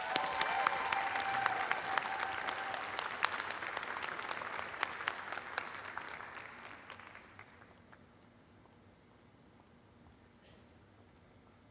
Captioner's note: cheers and applause